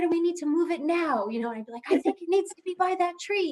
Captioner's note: laughter